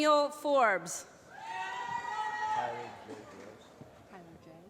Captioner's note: applause